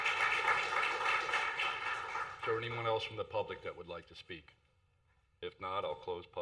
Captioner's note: applause